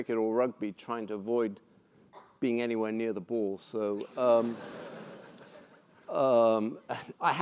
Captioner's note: laugh